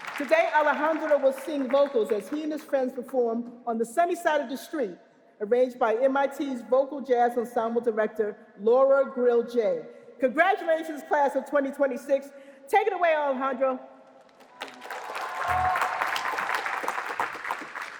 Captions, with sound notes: Today, Alejandro will sing vocals as he and his friends perform "On the Sunny Side of the Street," arranged by MIT's Vocal Jazz Ensemble Director, Laura Grill Jaye. Congratulations, class of 2026. Take it away, Alejandro. [APPLAUSE]